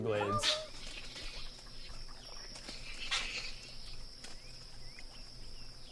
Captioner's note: green heron calling